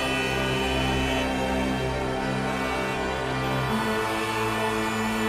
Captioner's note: cars honking